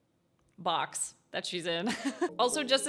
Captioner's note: chuckles